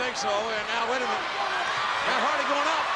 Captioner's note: audience cheering